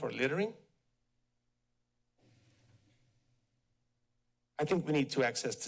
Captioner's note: pause